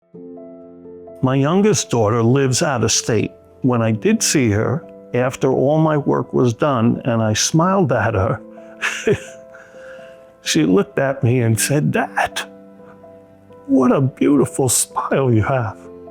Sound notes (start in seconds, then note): 0.0 slow music; 8.8 chuckles